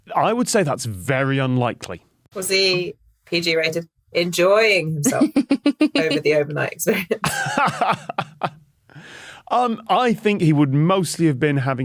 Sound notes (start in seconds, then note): 5.0 giggles; 7.3 laughs